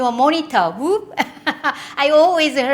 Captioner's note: laughing